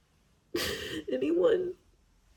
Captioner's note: sniffles, inhales shakily